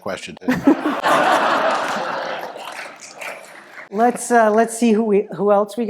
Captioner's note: laugh